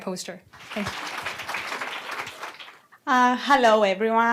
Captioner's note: applause